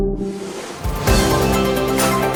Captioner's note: upbeat instrumental music; air swooshing